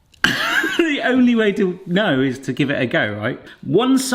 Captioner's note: laughs